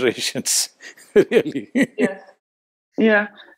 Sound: laughs

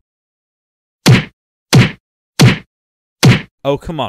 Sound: punching sounds

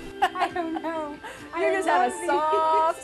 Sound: laughing

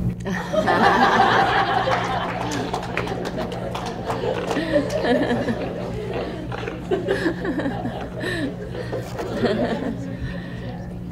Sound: laughter

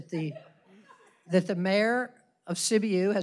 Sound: laughter

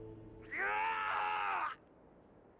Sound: screaming

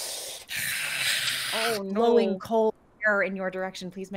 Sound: Deborah hissing

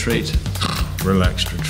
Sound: snores

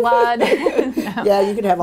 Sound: laughter

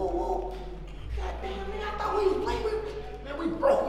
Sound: speaking away from mic

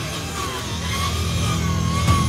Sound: saw whirring

